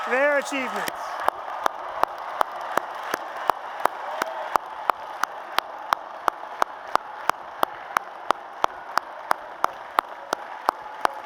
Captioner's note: applause and Cheers